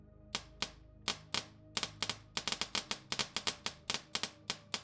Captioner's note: paintball gunshots